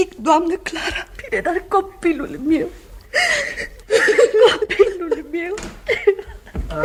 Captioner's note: crying